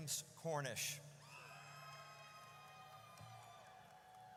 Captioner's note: audience cheers